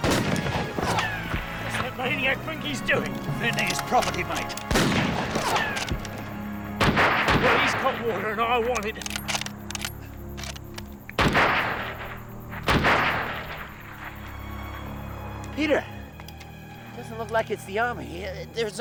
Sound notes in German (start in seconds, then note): 0.0 Schrotflintenfeuer; 3.3 Waffen schießen; 11.1 Waffen schießen